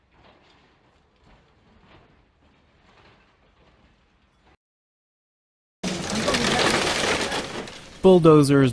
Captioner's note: construction Noise